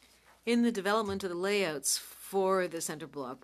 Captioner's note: speaking French